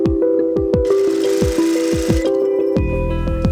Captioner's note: sewing machine roaring; upbeat music